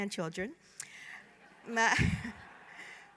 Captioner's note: laughter